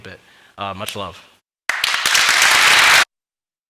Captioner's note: clapping